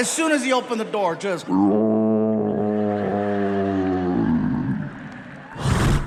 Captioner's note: imitates creature growling